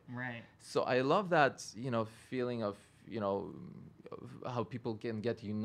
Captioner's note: stutters